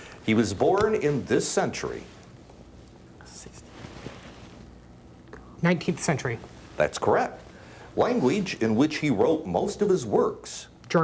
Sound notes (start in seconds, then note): 3.2 whispering